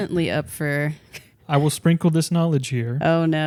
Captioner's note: laughs